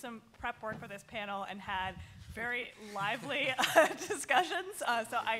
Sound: laughs

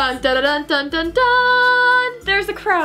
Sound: mimics fanfare

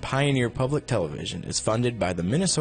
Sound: voiceover

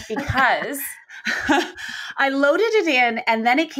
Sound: both laughing

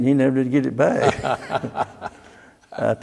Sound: laughter

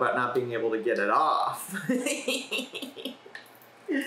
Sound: laughs

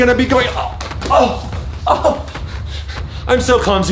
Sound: grunts

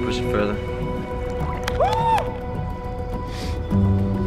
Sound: claps and yells

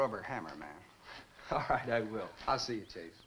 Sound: chuckles

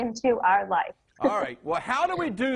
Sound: laughs

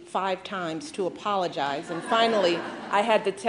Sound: laughter

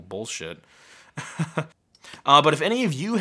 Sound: laughing

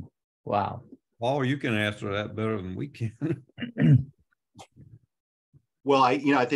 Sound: chuckles

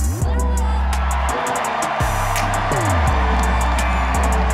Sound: crowd cheering

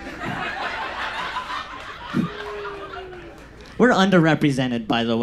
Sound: audience laughs

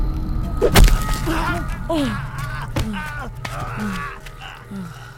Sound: screams

